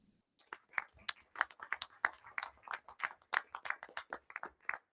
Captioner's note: crowd applauding